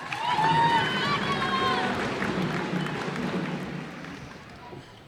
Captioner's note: cheers and applause